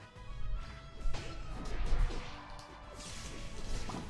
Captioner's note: fighting sounds